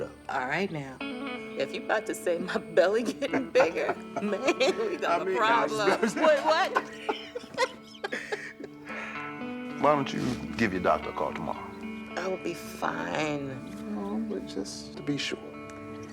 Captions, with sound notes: - All right now, if you 'bout to say my belly getting bigger, man, (laughs) we got a problem. - I just mean- - Wait, what? (both laughing) - Why don't you give your doctor a call tomorrow? - I'll be fine! - I know, but just to be sure, okay?